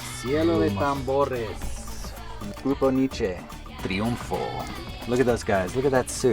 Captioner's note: speaks spanish